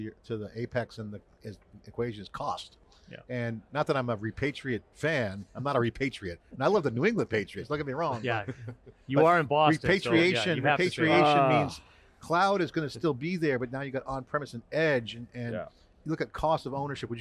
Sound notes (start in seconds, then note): 8.0 chuckling; 8.1 laughs